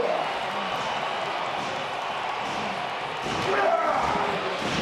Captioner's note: crowd cheers